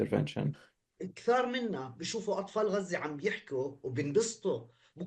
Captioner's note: speaking arabic